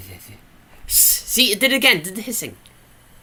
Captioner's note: mouth hiss